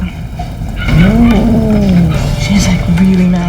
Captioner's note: cat growling